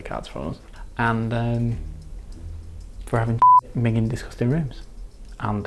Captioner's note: beep